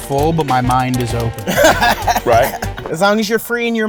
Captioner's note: laughs